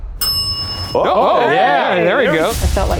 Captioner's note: bell rings; all exclaim